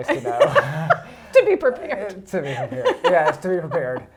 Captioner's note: laughs